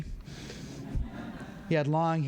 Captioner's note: laughter